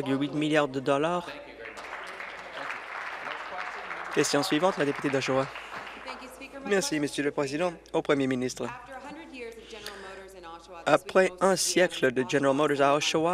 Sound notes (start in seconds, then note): 5.8 applause